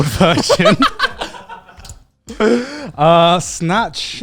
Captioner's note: everyone laughs